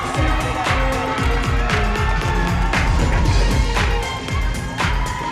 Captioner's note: audience cheering